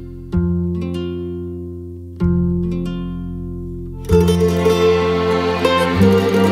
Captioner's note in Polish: Aplauz